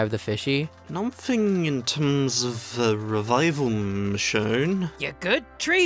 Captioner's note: slurred